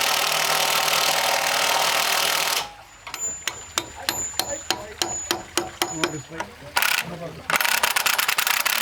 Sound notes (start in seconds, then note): 7.5 rattling sounds